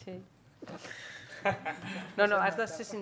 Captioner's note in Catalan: riures